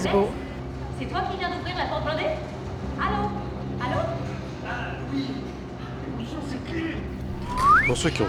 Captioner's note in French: Sons d'ambiance de l'attraction